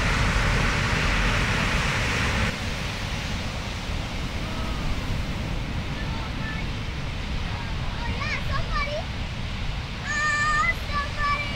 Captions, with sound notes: (motor rumbling) Oh yeah, somebody! Oh, somebody!